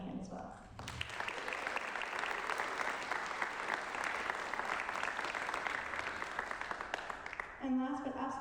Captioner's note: applause